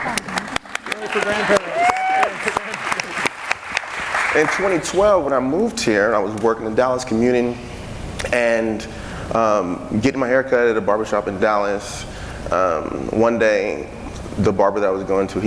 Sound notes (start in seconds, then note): 2.8 audience clapping and cheering